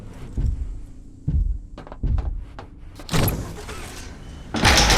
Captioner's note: thuds; thuds